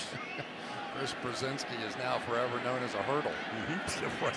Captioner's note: laughs